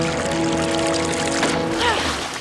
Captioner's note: groaning